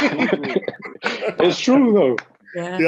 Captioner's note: laughs